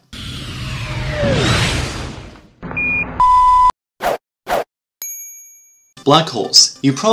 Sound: slightly distorted swearing

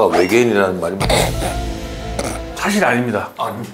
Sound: pffft

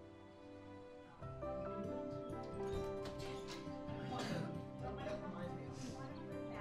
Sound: distant talking

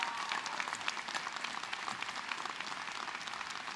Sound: cheers and applause

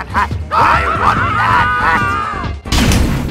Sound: Both Mario and SMG4 screaming

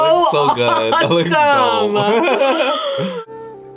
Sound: laughs

